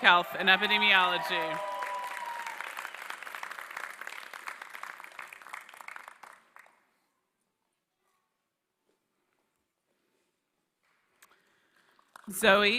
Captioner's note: applause